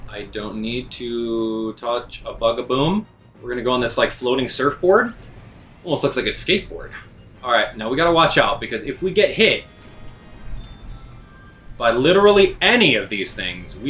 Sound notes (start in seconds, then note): 10.6 mushroom chimes